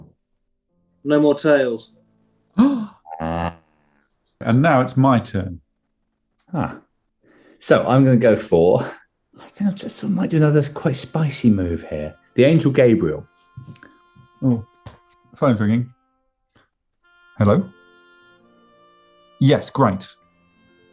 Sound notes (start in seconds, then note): 2.6 gasps